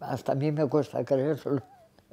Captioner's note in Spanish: Ríe